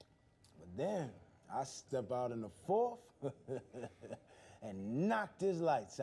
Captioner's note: chuckles